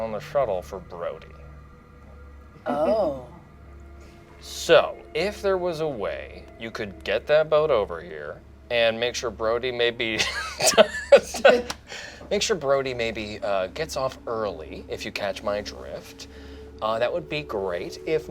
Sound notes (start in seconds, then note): 10.1 laughs